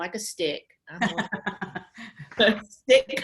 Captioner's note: laughs